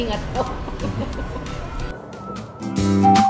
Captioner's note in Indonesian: Ketawa